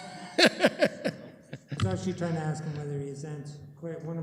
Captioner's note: laughs